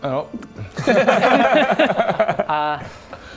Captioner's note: heartless bastards laughter